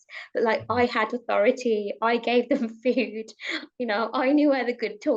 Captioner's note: chuckles